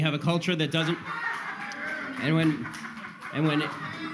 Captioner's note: people laughs and boos